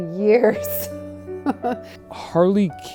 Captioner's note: laughs